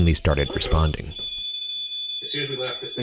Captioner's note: continuous beeping